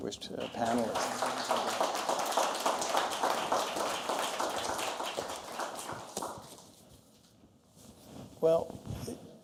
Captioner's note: applause